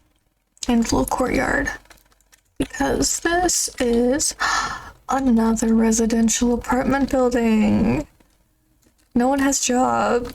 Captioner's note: gasp